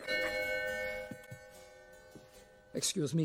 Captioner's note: doorbell rings